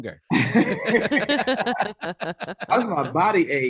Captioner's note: all laughing